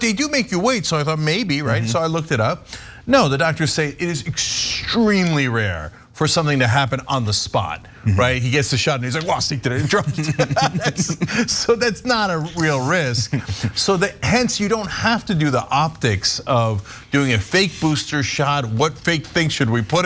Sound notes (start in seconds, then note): 9.7 laugh